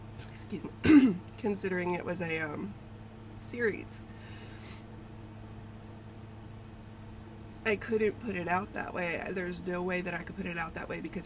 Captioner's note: clears throat